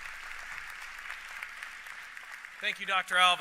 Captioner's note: applause